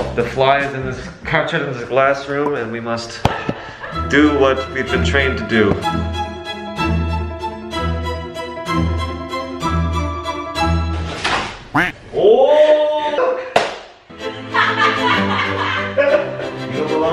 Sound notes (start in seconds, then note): 5.2 dramatic music; 11.2 paper smacking; 11.7 duck quacking; 13.7 paper smacking